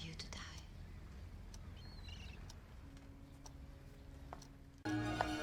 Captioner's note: clock ticking; click